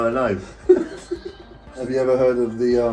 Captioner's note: both laughing